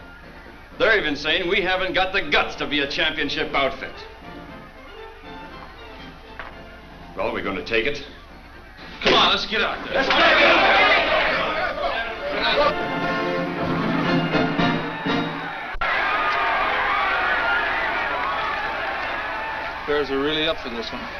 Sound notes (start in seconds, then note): 8.8 players yell; 16.2 crowd yelling